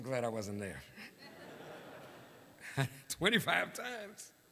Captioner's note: laughter